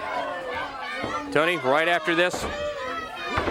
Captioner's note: crowd chatter